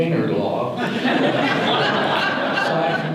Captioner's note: audience laughter